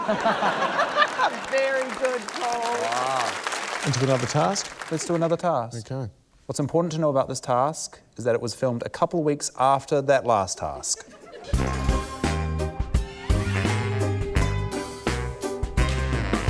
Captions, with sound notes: (LAUGHTER) - Very good, Paul. (APPLAUSE) - Into another task? - Let's do another task. - OK. - What's important to know about this task is that it was filmed a couple of weeks after that last task. (QUIRKY THEME MUSIC)